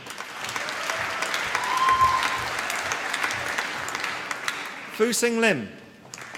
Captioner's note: applause